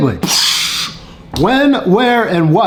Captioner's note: host mimicking explosion sound